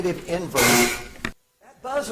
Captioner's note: buzzer buzzes